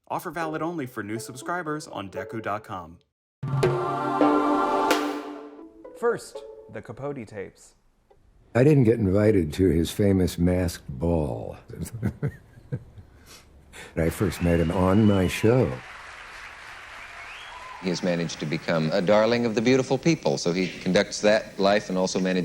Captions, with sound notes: Offer valid only for new subscribers on Dekkoo.com. First, "The Capote Tapes." - I didn't get invited to his famous masked ball. (Dick laughing) And I first met him on my show. (audience cheering) (audience applauding) He has managed to become a darling of the beautiful people, so he conducts that life